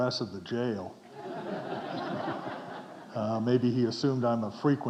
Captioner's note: audience chuckling